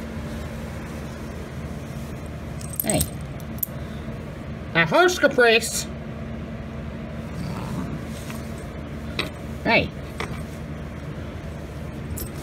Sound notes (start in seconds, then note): 7.3 Caprice growls